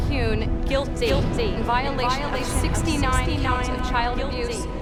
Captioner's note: echoing